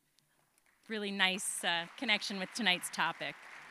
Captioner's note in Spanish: aplausos